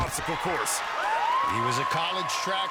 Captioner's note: cheering